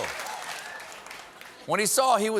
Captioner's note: laughter